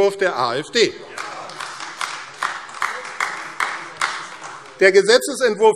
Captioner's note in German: Beifall AfD